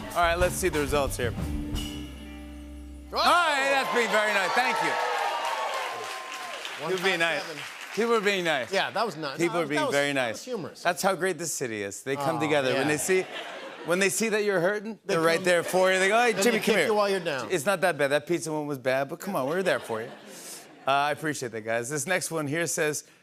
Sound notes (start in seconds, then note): 5.0 cheers and applause